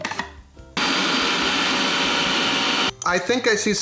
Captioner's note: machine whirs